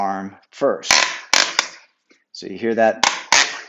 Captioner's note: rack clicking